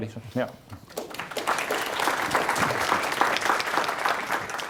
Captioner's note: applause